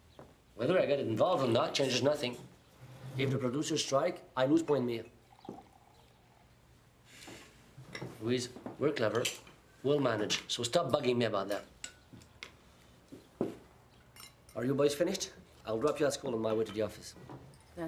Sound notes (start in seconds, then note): 0.0 heels clack; 5.2 milk pours